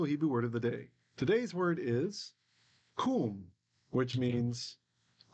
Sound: Hebrew

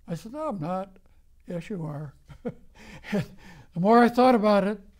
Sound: laughs

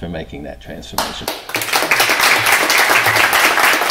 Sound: applause

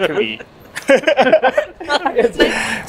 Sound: all laugh

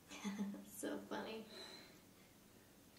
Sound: laughs

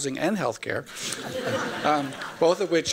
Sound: laughter

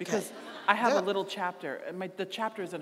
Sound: audience laughing

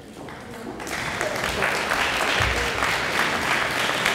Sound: audience applauds

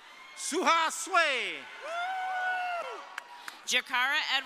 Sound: audience cheering

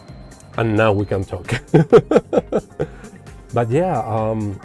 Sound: laughs

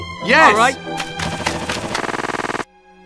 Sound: unstable walking noises

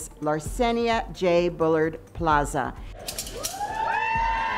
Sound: cheering

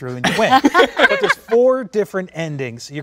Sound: laughing

